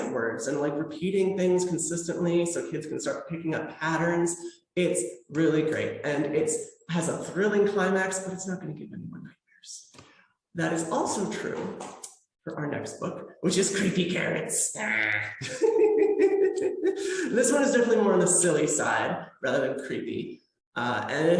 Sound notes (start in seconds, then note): 14.7 creepy carrot noise